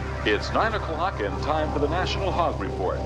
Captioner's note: voiceover